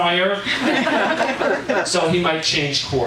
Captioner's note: audience laughing